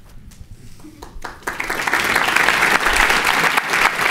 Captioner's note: clapping